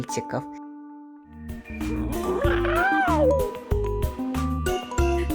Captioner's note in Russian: кот мяучит